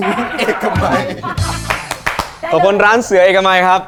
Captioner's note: Hahaha